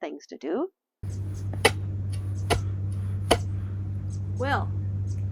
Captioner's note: shovel jams into ice